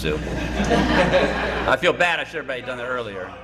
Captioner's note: laughter